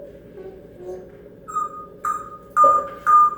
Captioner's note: misc. beeping